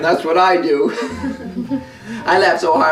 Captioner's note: everyone laughing